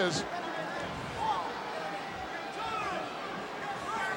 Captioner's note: audience cheering